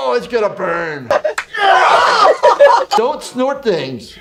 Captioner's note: men cheering